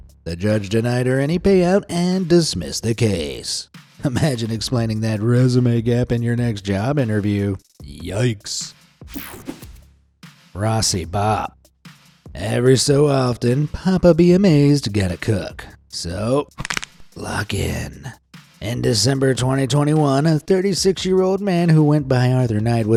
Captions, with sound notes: The judge denied her any pay out and dismissed the case. Imagine explaining that resume gap in your next job interview. Yikes! Rossi Bop Every so often, Papa Be Amazed gotta cook. So, *knuckles crack* lock-in. In December 2021, a 36-year-old man who went by Arthur Knight